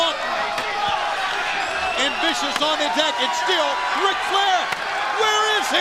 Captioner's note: crowd cheering